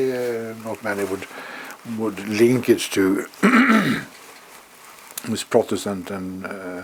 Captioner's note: cough